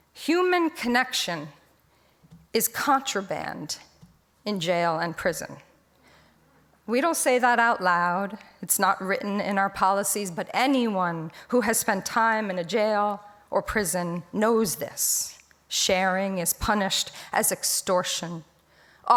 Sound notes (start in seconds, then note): none